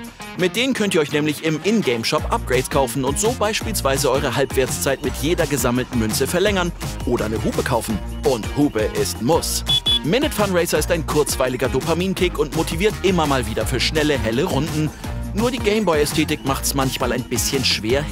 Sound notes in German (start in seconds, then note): 9.6 Hupen